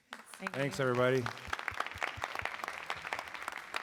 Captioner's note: applause